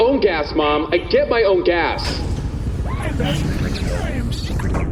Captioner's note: BARGIE’S bay door opens